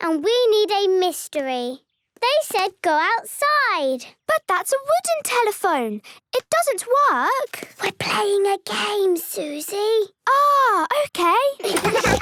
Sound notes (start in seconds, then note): 8.0 whispering